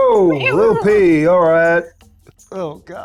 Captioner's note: squeaks